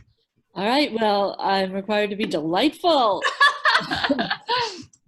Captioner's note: laughs